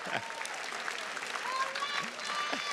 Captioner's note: chuckles; attendees cheers and claps